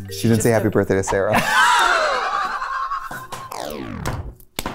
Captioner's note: both laughing